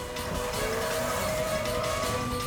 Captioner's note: car revving; siren wailing